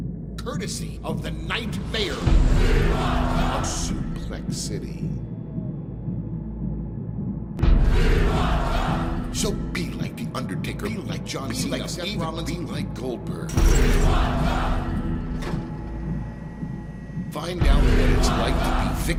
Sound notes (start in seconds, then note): 0.0 chanting; 3.5 chanting; 7.7 chanting; 15.2 chanting